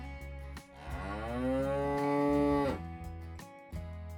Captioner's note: cow Moo